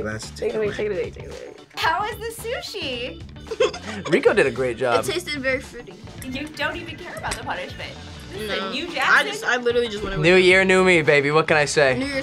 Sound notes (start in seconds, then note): 3.4 laughs